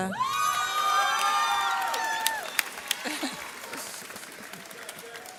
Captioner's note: audience cheers